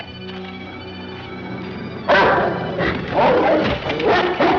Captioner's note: dog barks